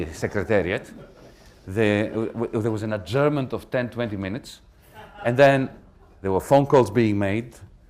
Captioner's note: laughter